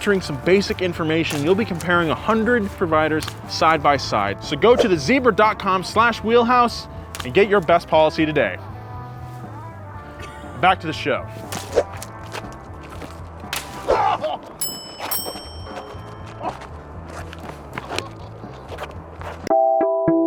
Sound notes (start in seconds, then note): 14.5 groans